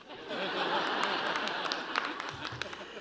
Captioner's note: laughter